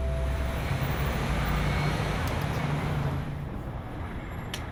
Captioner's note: traffic roars